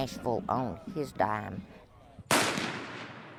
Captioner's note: gunshot